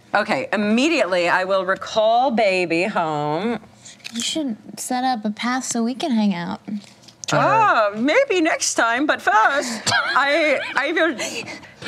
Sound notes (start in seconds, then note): 7.5 imitates German accent; 9.7 laughter